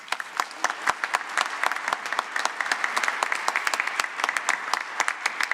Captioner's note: applause